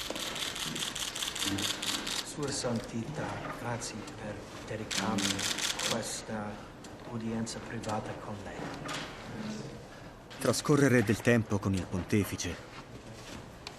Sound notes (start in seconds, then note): 2.4 Leo speaking Italian to Pope Francis